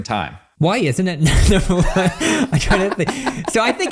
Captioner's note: laughs